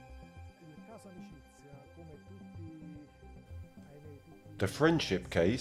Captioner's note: speaking in foreign language